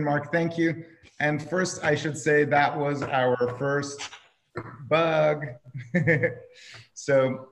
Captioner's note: laughing